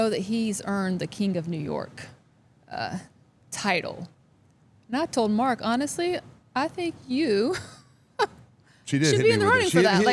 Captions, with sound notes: that he's earned the King of New York title. And I told Mark, honestly, I think you (laughs) She did. should be in the running for that.